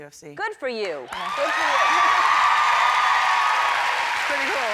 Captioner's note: cheers and applause